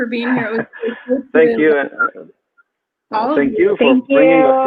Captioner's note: speaks faintly